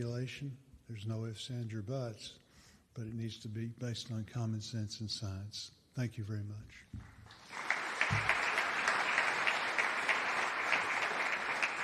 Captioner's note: applause